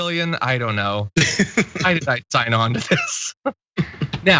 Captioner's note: laugh